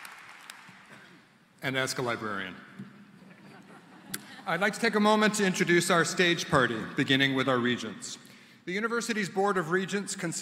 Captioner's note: applause